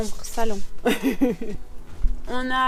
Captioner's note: laughs